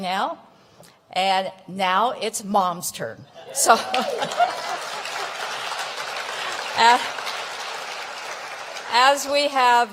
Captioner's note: applause